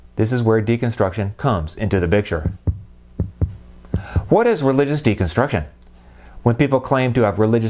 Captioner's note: heartbeat